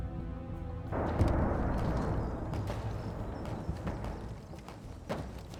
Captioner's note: distant gunfire, cannon fire